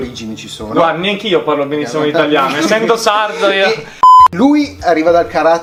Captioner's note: laughs